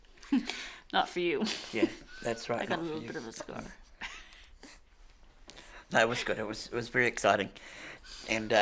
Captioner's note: laughter